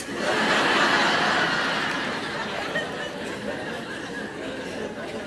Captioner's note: laughter